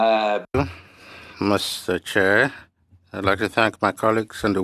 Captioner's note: speaking French